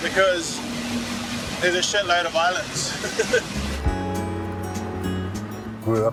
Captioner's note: laughs